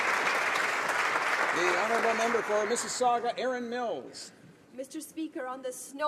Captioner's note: applause